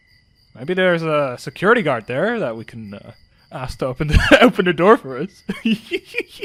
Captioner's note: laughing; giggles